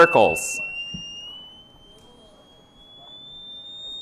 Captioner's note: very high-pitched sound